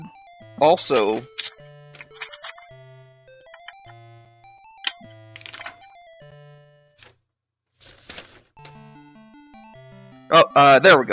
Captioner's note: awkward silence